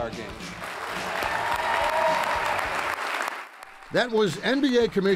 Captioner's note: cheering and clapping